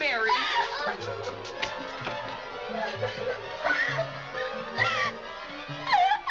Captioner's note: dramatic music; Mary crying; Mary shrieks